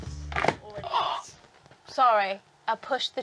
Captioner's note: gasps